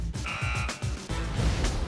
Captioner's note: buzzer